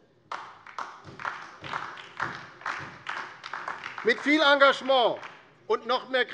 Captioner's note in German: Beifall